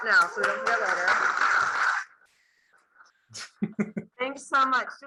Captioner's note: class clapping